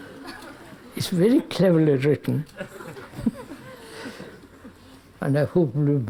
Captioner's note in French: rires